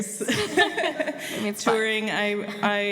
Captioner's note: laughter